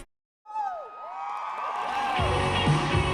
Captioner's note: cheering